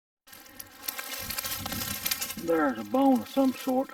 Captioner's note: leaves rustling